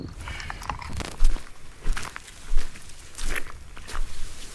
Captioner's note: crickets chirping; footsteps crunching; grass rustling